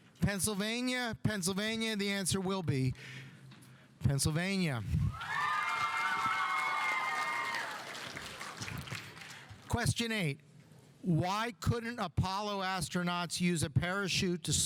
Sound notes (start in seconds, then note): 5.1 audience cheering; 5.2 audience applauding